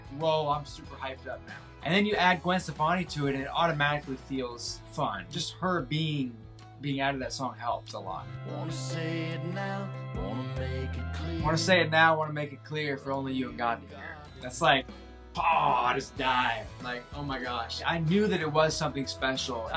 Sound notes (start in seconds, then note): 15.3 exclaims